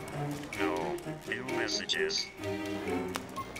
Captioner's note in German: spannende Musik; Robotic Voice